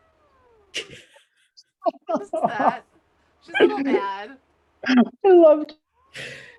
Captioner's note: laughing